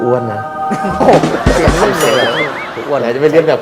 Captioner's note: laughter